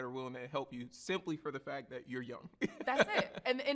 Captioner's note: laughs